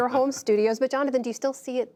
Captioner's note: laughter